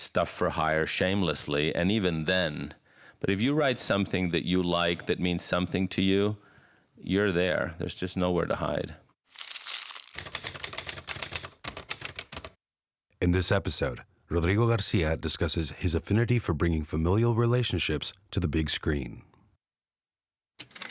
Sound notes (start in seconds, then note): 9.3 paper crumpling; 9.4 typing